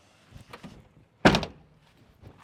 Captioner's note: door slams